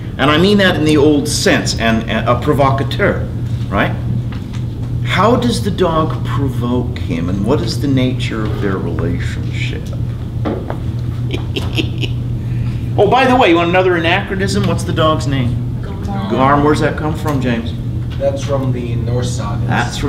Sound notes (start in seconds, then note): 11.2 laughs